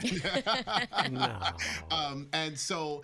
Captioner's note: all laughing